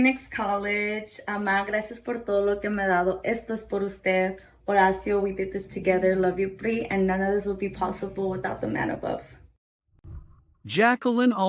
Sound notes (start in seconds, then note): 2.3 speaking Spanish